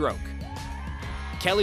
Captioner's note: cheering